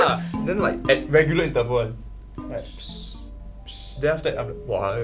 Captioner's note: imitates sound